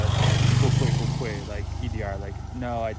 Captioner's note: Mandarin